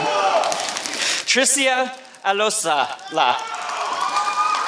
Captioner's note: applause